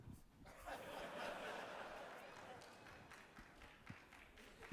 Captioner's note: audience laughing